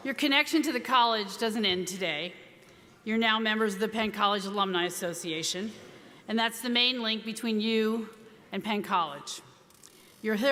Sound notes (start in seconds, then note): none